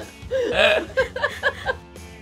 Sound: laughing

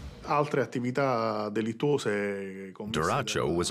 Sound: speaking in Italian

